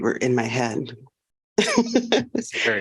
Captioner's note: laughter